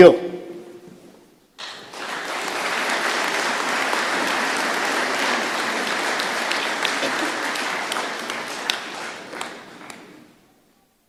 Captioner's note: applause